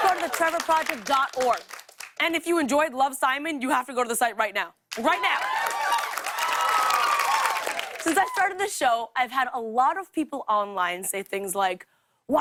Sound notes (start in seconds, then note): 4.9 cheers and applause